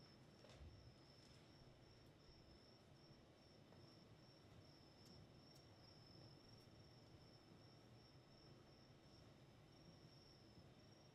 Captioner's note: crickets chirping